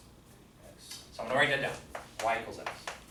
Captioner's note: voiceover